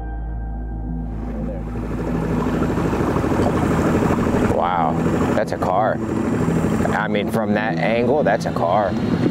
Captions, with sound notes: (helicopter whirring) Wow, that's a car. I mean, from that angle, that's a car.